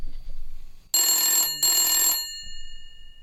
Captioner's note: sound of phone ringing